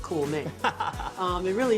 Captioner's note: laughter